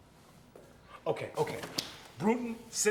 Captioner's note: door clatters open